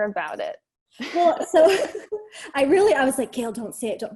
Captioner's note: chuckles